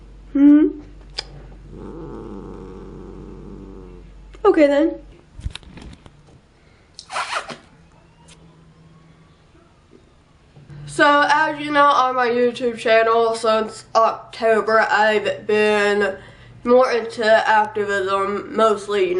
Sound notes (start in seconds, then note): 1.5 just growls some more; 7.0 making annoying kissing noises